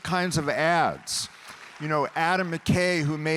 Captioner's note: audience applauding